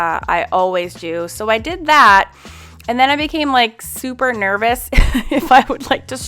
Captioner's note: laughs